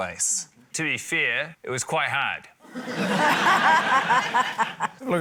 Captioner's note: laughter